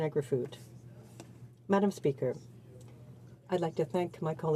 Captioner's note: speaking French